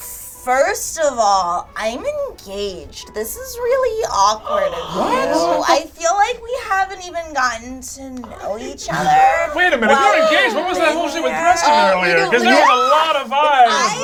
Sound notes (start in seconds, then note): 4.4 gasp